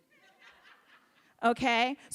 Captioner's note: audience laughs